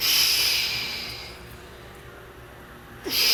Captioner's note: breathing